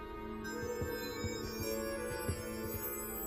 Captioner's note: orb shimmering